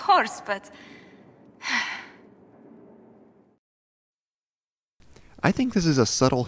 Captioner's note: sigh